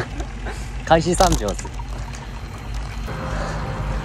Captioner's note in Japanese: 笑う